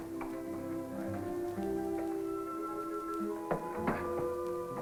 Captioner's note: chatter